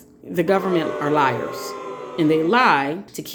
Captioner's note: booing crowd